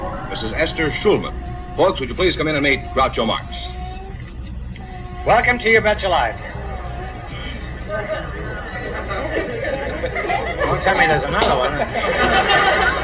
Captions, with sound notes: Mrs. Ester Shoeman. Folks would you please come in and meet Groucho Marx. Welcome to You Bet Your Life. (Audience laughs) Don't tell me there's another one. (Audience laughs)